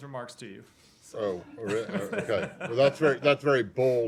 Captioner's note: laughter